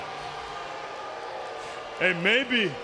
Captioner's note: audience jeers